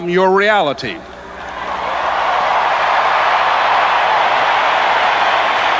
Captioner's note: audience cheers and applauds